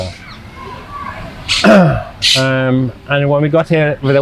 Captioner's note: throat-sound